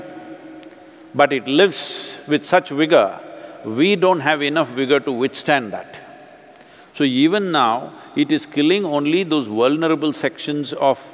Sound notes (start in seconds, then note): none